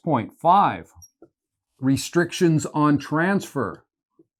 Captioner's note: marker squeaking